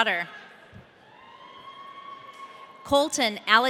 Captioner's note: audience cheering